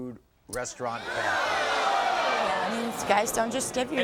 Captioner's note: audience groans